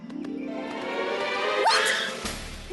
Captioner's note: screech!